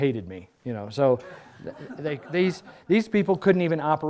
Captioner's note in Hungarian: Nevetés